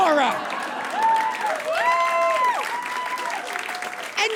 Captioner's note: audience laughs and applauds